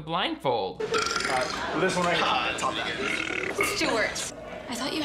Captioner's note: burps